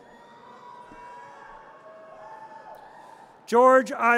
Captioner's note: audience cheers